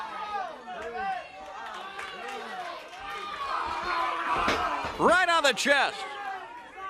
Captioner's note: crowd chatter